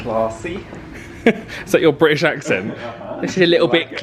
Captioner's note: chuckles